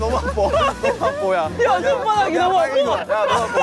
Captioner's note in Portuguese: Membros gemem de dor